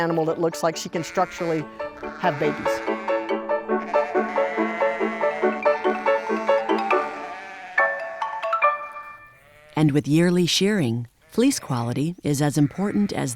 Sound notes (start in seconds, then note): 2.5 whimsical piano music; 2.9 sheep bleating